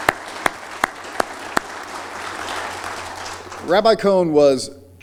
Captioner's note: applause